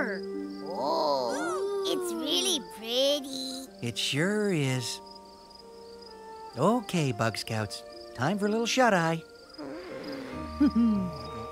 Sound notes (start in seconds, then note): 8.0 yawns